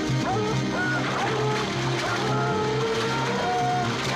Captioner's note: dogs splashing